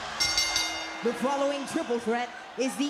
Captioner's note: bell rings